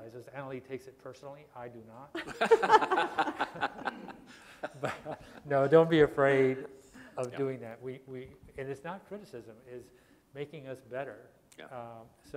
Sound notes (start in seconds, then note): 2.1 laughter